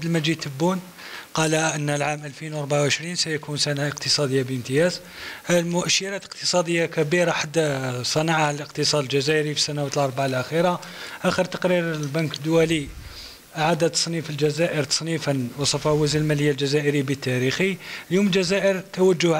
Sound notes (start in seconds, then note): 1.5 speaking in foreign language